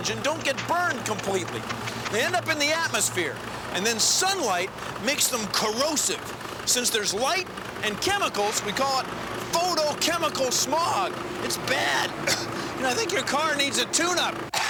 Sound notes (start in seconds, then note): 11.8 coughs